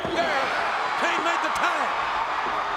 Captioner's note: audience cheers